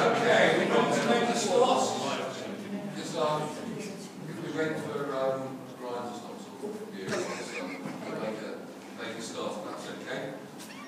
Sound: laughter

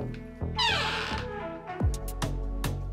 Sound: creaks

